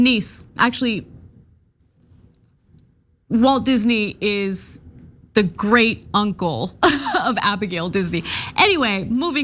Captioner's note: laugh